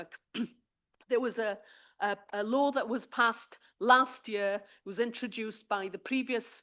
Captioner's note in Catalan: s'aclareix la gola